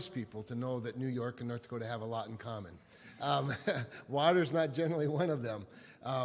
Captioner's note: chuckles